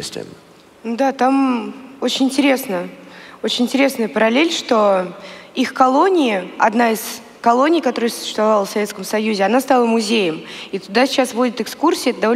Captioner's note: foreign Language